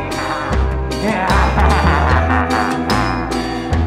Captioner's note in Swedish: Skrattar läskigt